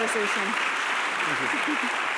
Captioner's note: applause